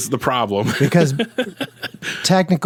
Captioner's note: laughs